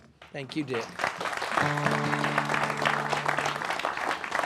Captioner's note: applause